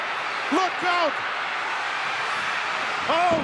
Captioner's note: crowd cheering